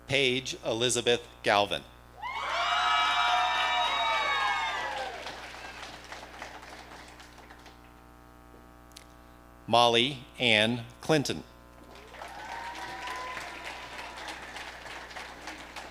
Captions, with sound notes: Paige Elizabeth Galvan. (audience cheering) Molly Ann Clinton. (audience applauding)